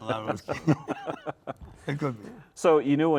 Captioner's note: chuckles